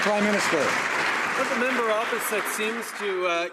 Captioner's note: applause